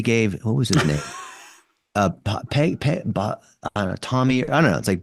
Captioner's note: chuckling